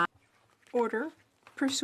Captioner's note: speaking French